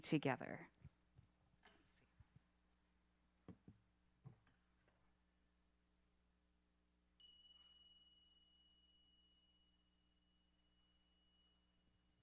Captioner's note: silence